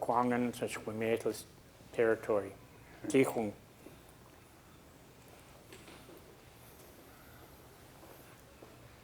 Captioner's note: speaking a local Indigenous language